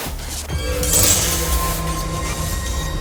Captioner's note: dramatic music; glass shattering